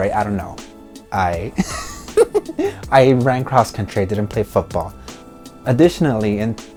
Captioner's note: laughs